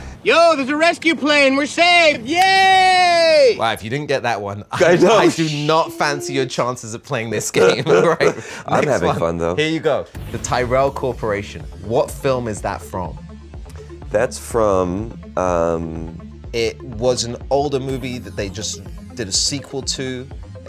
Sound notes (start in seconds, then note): 7.4 laughing